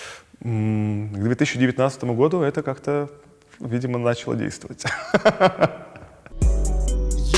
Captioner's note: laughs; title theme